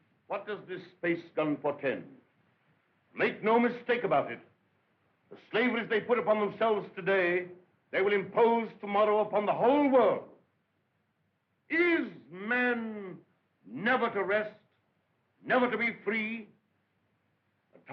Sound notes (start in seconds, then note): none